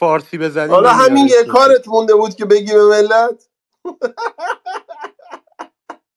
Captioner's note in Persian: خنده